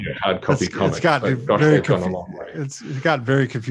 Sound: chattering

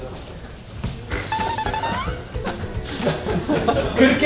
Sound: impossible to control the laughter

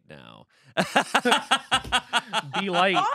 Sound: laughing

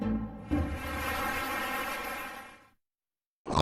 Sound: applause

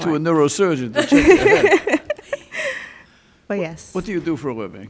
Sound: women laughing

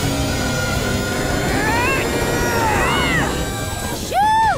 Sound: grunting

